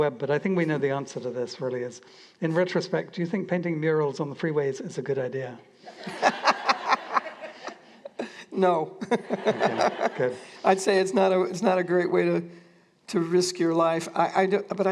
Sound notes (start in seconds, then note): 5.8 laughter